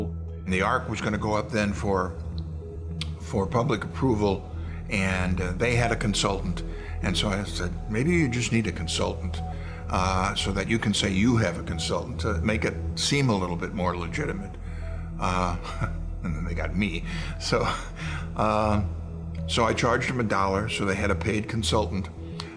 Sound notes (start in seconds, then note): 14.7 laughing